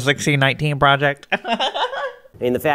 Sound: giggles

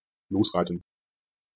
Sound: fast Pronunciation

